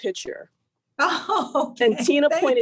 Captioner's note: laughs